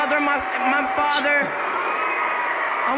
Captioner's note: scoffing